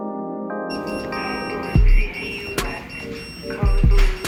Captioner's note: machine beeping; radio chatting